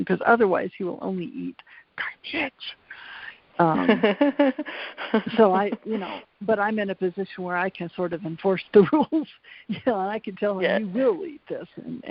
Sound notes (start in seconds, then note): 3.6 laughs; 9.4 laughs